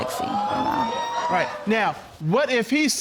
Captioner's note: audience exclaiming